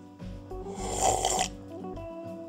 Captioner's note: slurp …